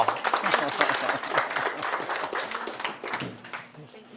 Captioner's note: clapping